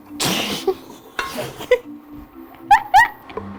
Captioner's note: laughing